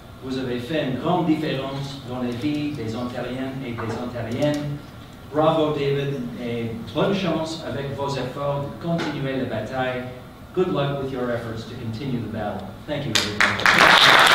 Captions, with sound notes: [in English] Bravo David. [speaking in French] [in English] Good luck with your efforts to continue the battle. Thank you, everyone